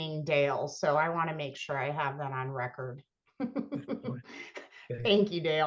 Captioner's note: laughs